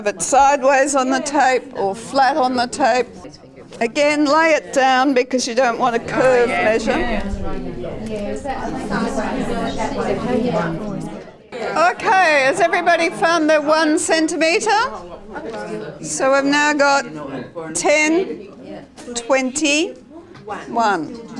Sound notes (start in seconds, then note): 7.7 audience chatter